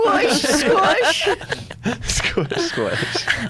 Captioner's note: laughs